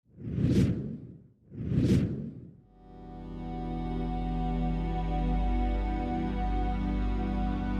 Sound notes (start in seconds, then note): 1.4 logo whooshing; 2.7 gentle music